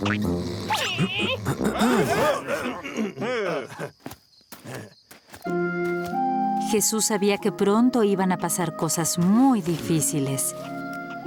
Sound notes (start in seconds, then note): 0.0 caterpillar noises; 0.9 clears throat; 2.2 startled noises